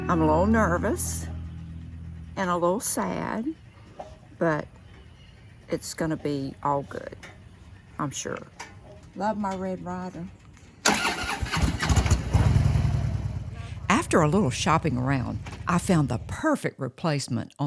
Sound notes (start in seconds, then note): 10.8 motorcycle engine revving